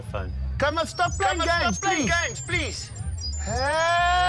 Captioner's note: radio feedback; voice echoes